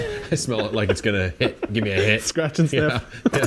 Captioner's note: laughs